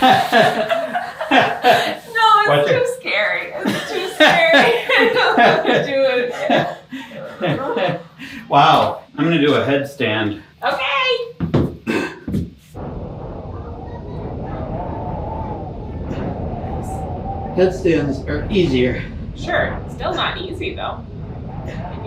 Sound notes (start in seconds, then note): 0.0 both laughing; 6.9 both laughing; 13.0 wind howling